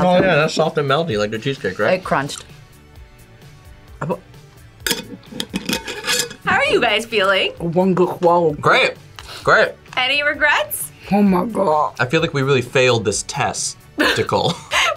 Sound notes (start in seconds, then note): 4.0 stammers